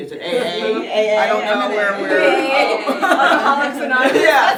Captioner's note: everyone laughs